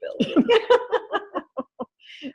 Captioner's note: both laugh